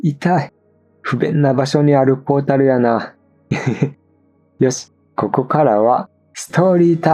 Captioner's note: laugh